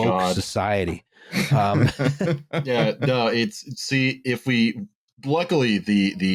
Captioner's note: laughter